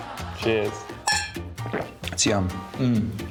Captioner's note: clink!